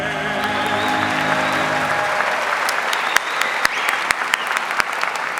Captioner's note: audience whistles and applauds